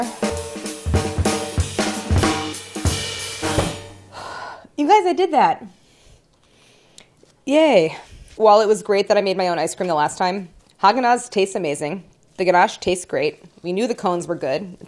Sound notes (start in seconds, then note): 0.0 bright percussive jazz; 4.1 softly sighs